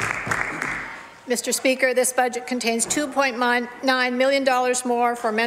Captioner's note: some Applause